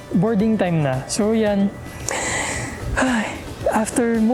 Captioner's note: deep sigh